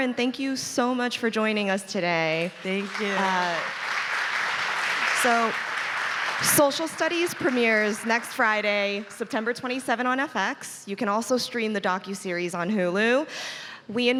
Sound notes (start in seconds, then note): 5.2 audience clapping